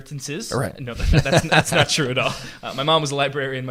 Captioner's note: laughs